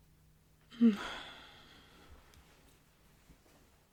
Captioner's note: sigh of assumed relief